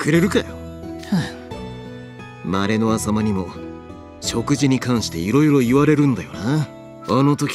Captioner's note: sigh